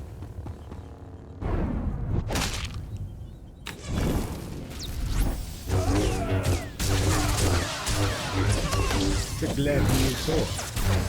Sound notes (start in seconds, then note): 4.0 gunshots